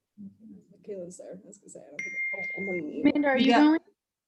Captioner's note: women murmuring